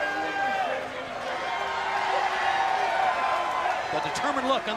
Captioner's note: crowd cheering